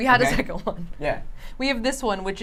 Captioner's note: laughs